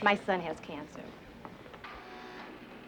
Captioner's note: buzzer